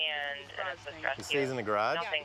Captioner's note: police radio chatter